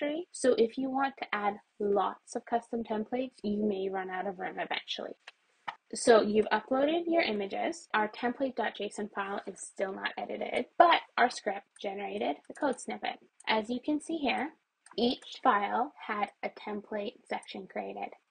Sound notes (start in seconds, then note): 5.6 mouse clacked; 12.5 mouse clicks